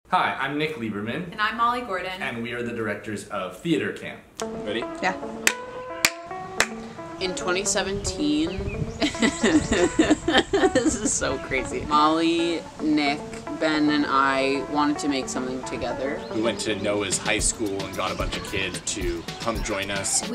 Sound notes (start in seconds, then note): 6.6 claps; 9.0 laughing nervously